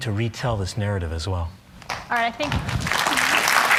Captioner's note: applause